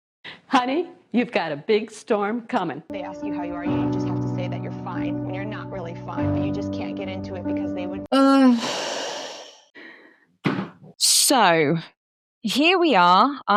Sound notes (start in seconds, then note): 8.1 exhausted groan